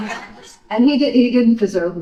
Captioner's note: audience laughing